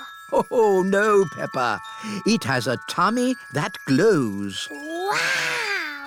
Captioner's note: laughs